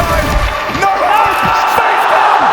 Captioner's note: broky screams